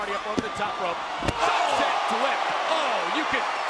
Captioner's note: body thuds; audience groans